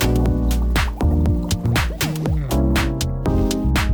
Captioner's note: upeat music; bubbling; upeat music